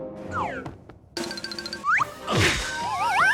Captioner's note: thief crashes